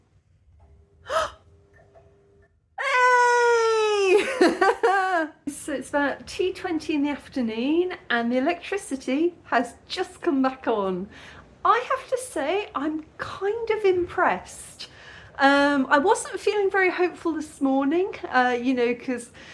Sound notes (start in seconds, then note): 1.1 gasp; 3.1 laughing